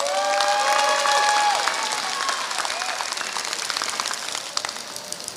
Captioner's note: applause